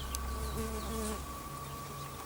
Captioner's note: birdsong; scary noise continues